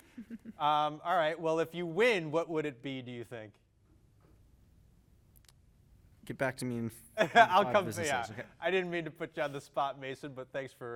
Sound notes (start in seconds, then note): 8.2 laughs